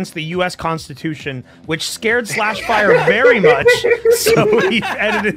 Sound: laughter

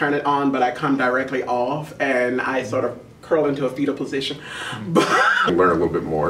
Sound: laughs

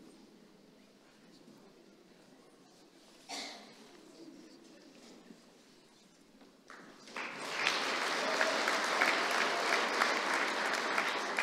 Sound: applause

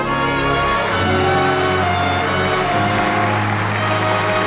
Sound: audience applauds

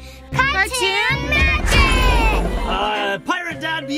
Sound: air whooshing

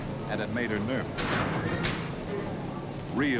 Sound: metal clanking

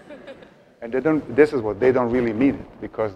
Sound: audience laughs

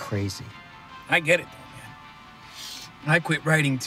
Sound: Nick sniffs

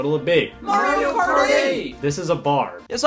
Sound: croud

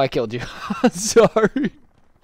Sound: immediate Laughter

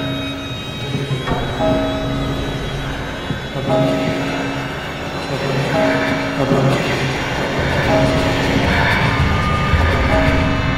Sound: ghostly voices

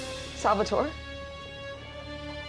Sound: in shaking voice

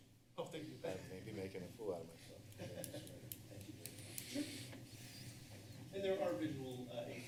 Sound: background conversations

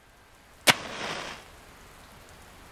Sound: match strike

